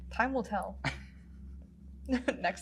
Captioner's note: giggles